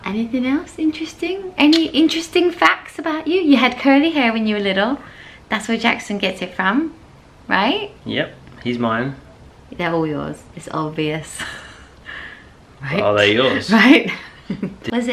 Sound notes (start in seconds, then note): 12.1 laughs